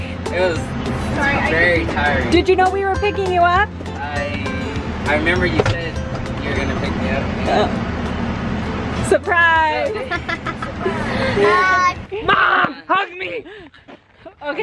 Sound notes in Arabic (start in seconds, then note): 9.8 أطفال يضحكون